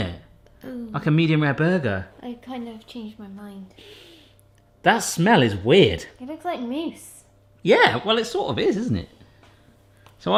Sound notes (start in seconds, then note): 3.8 sniffing